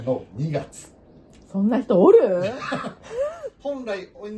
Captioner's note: laughs